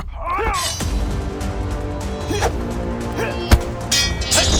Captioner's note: dramatic music; swords clanking; dramatic music